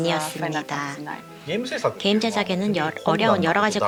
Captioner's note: non-english speech